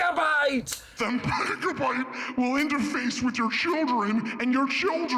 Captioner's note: deep voice